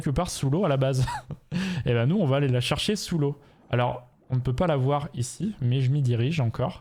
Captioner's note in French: rires